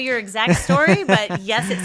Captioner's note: laughing